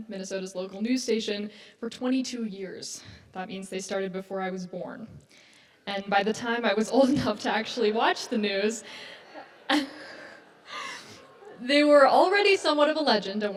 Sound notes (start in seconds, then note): 8.6 audience laughs